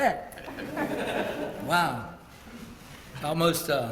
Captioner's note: laugh